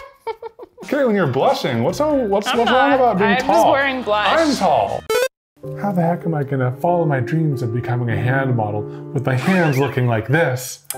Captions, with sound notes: Katelyn, you're blushing, what's wrong about being tall? I'm just wearing blush. I'm tall. (video game beeps) How the heck am I gonna follow my dreams of becoming a hand model, with my hands looking this?